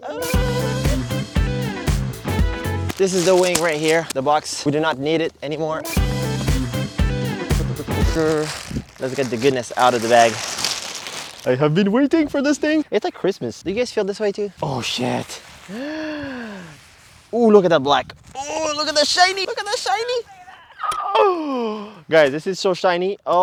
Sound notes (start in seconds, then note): 0.2 upbeat music; 6.0 upbeat music; 10.5 paper rustles